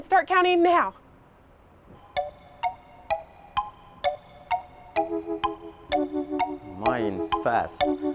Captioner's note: ticking